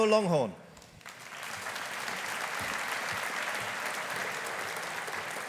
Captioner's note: audience applauding